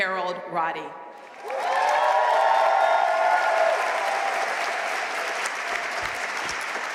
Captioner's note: audience cheering and applauding